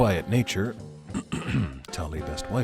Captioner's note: clears throat